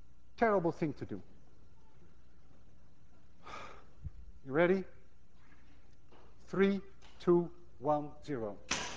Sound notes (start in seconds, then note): 3.4 sighs; 8.4 gun clicks